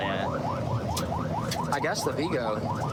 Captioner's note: warning sirens